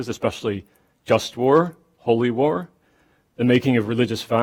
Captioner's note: none